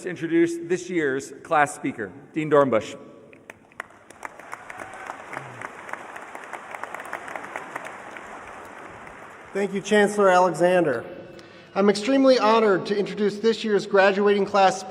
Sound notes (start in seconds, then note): 6.3 applause